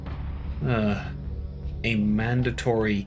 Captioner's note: grumpy sigh